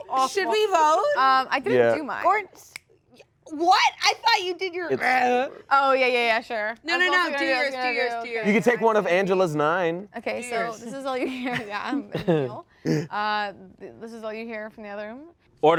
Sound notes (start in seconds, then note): 5.3 grunts